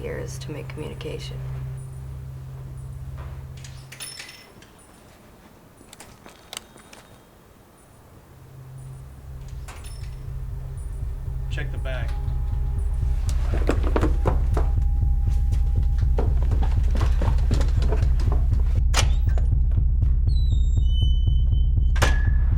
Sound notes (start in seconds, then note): 3.9 bell chimes; 12.3 tense music plays